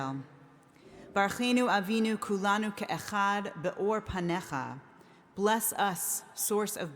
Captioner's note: speaking in foreign language